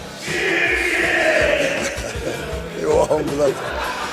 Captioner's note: shouting in background